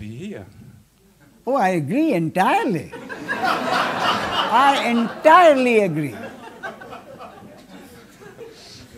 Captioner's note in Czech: smích